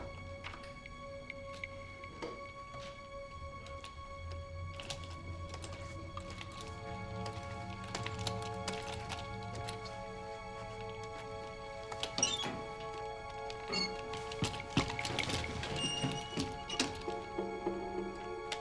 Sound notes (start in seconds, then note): 11.9 creaking